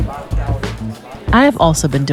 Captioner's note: background chatter